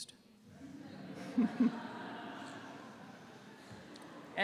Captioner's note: laughter